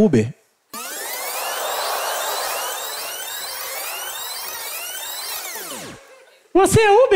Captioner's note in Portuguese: fita rebobinando; voz fina